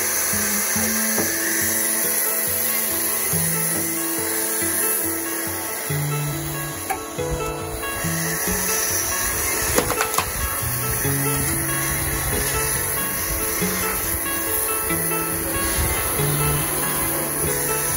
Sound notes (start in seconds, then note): 0.0 electric chainsaw sound; 2.4 wood splitter sound; 9.7 log cracking sound